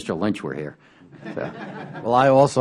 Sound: laughter

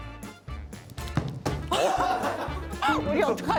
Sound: thump

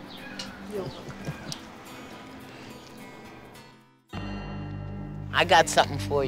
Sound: chuckles

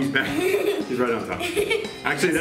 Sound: laughing

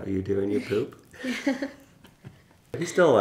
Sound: laughs

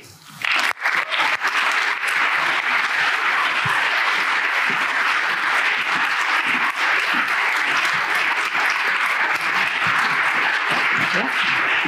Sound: applause

